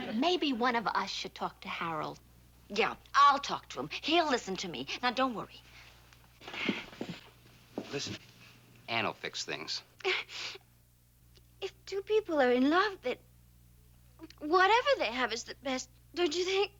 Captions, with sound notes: Maybe one of us should talk to Harold. Yeah, I'll talk to him. He'll listen to me. Now, don't worry. Listen, Ann will fix things. (sniffs) If two people are in love, then whatever they have is the best, don't you think?